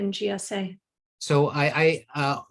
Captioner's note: audio cut out